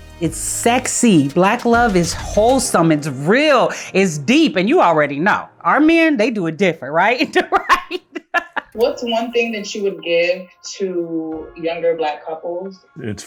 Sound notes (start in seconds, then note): 7.1 laughing